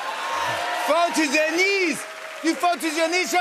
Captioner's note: French accent